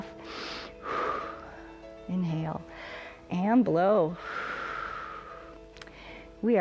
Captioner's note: inhales and exhales; exhales